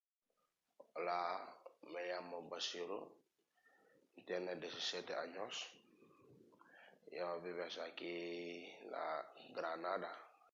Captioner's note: speaking Spanish